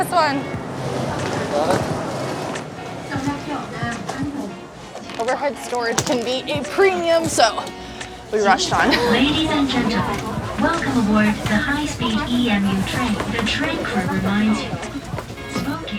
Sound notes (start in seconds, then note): 13.4 announcements